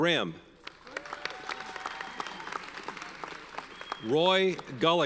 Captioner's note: audience cheers and applauds